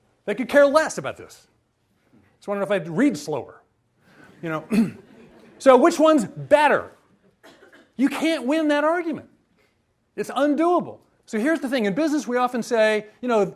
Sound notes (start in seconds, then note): 4.9 audience laughs